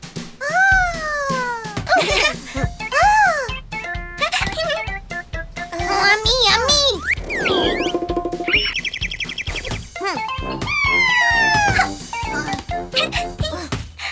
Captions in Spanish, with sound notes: Ahhh.. (Risas) Eh…¡A mí, a mí! (Sonido de pajaro) ¡Yaaaa ja! (Risas)